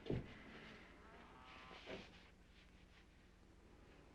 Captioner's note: cows mooing